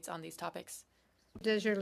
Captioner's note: speaking French